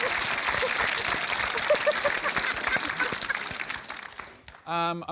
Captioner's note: applause; laughs